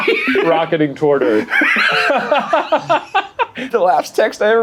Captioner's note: laughing